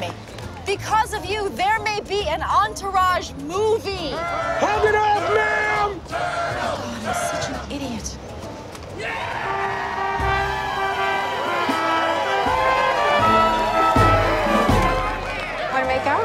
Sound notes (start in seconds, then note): 5.2 all chanting "Turtle!"; 9.0 cheering